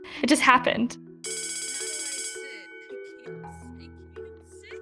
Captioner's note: bell rings